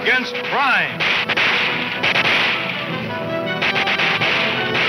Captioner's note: gunshots banging